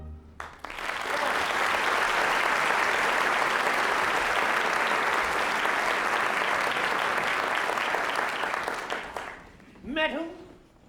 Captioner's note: applause